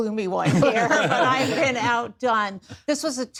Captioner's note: laughter